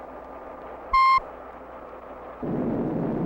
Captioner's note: beeps